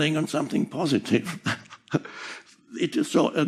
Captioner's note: Eckhart râzând